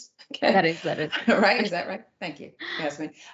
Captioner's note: laugh